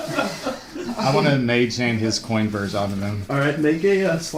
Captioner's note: laughter